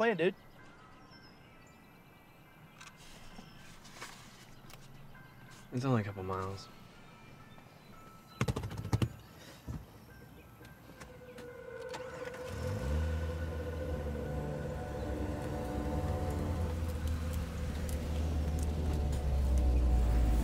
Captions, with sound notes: - So what's the plan, dude? - It's only a couple of miles. (hands drumming on seat) (ominous music)